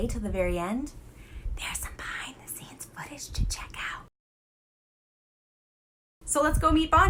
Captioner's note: whispers